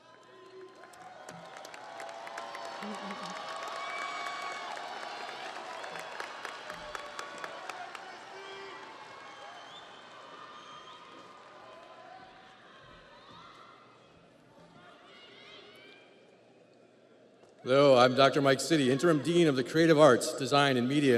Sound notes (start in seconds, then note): 6.1 audience applauds; 6.1 audience cheers